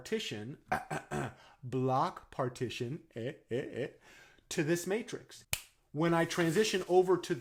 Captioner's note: cough, cough, cough